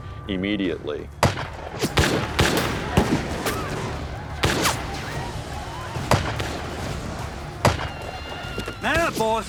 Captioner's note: gunfire